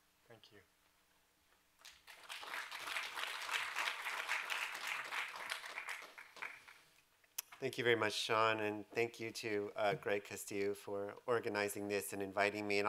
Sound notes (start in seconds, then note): 1.8 applause